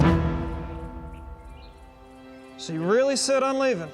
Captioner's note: footsteps